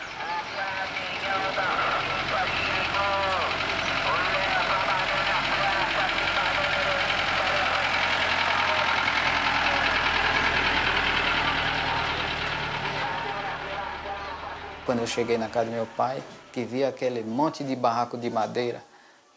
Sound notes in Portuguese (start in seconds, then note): 0.1 Voz no megafone comercial, motor de caminhão; 8.9 Motor de caminhão